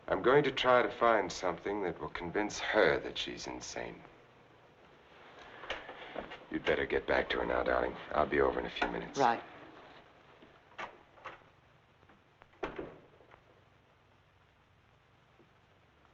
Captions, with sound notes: - I'm going to try to find something that will convince her that she's insane. You'd better get back to her now, darling. I'll be over in a few minutes. - Right. (door rattling)